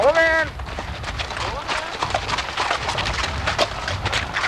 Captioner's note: clip-clop Sound of Horses